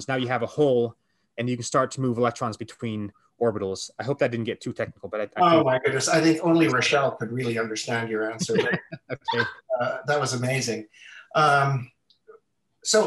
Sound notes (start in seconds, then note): 8.3 laughter